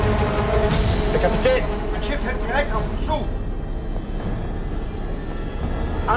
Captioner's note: speaking foreign language